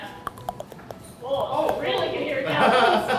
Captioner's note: teeth chattering